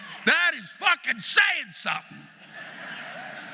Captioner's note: audience laughing